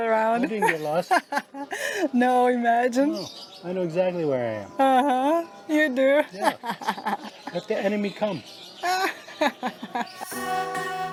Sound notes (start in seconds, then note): 8.8 laughs